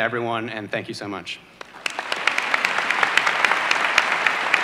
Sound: applause

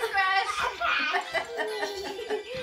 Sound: laughing

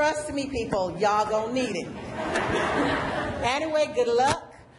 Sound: laughter

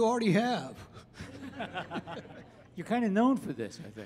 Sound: audience laughing

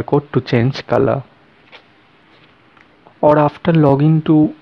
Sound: no sound

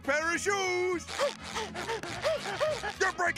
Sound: gasping

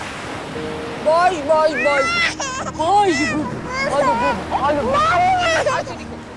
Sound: cries in the background

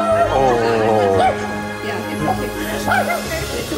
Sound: barking; barking

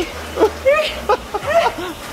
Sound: heavy breathing; chuckling

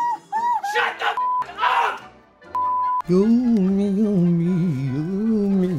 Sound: continues cheering; beep

